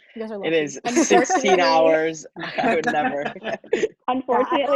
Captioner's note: laughing loudly